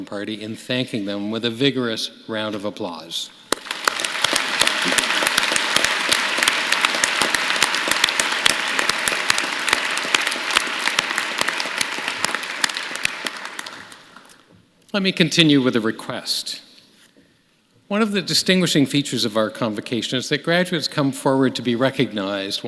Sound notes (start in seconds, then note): 14.9 applause